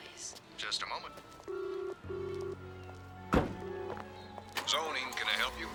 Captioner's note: telephone ringing